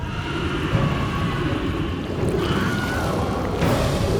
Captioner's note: people screaming